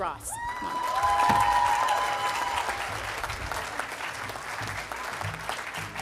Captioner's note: audience applauding and cheering